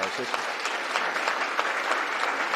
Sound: applause

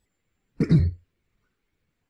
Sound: clears his throat

